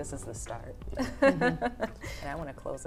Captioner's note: laughs